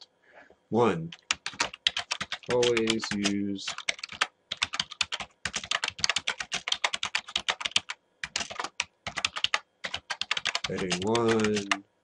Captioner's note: typing